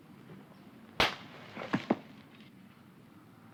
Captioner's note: bang